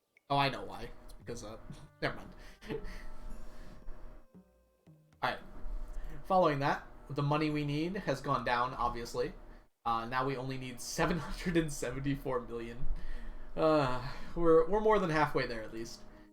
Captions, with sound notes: Oh I know why because, never mind. (chuckles) All right. Following that, the money we need has gone down, obviously. Now we only need 774 million. (laughs) We're more than halfway there, at least--